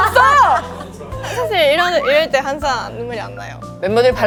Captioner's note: hear me out / Crying